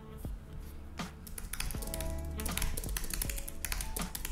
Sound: keyboard clicking

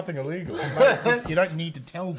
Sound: laughing

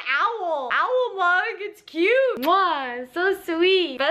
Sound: kiss

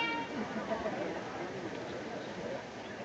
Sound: indistinct chatter

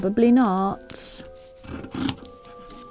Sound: scissors snipping

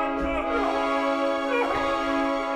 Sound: Rodolfo cries

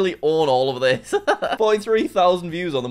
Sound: laughs

